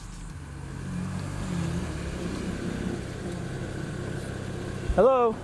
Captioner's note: car engine running